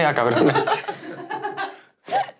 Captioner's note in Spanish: Risas